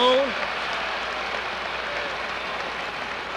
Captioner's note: cheers and applause